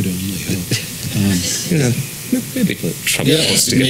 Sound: laugh

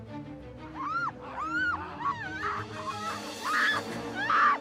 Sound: screaming

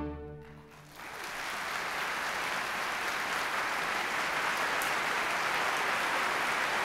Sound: applause

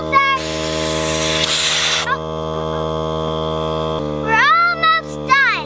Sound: air hissing

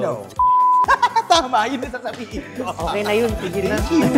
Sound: laughs

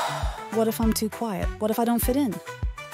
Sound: sigh

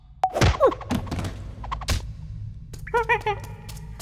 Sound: alien talk

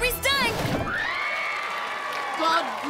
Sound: cheering

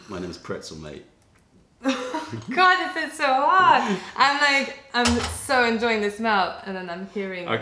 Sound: laughter

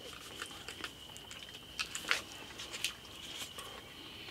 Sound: wet gnawing

